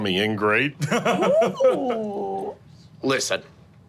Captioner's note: laughing